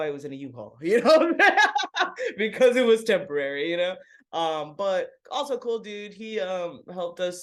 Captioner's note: laughs